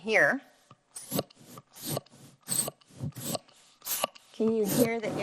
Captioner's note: air whooshing